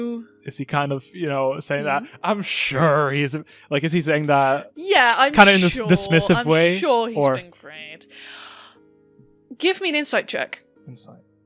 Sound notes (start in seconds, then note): 2.1 sarcastically